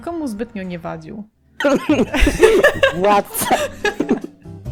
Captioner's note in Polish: śmiech